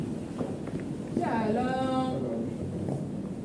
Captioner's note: they speak Hebrew